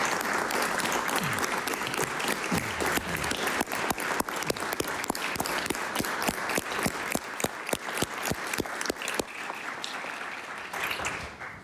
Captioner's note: applause